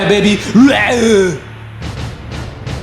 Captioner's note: Arnold grunt